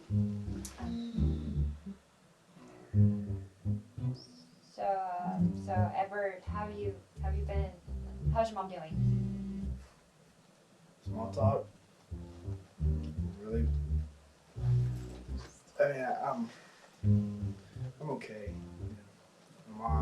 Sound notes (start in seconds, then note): 0.8 sighs